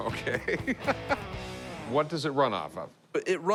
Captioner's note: laughs